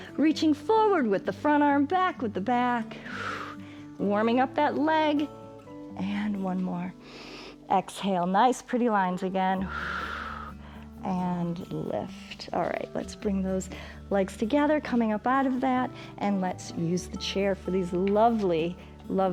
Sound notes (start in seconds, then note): 3.0 exhales; 7.0 inhales; 9.6 exhales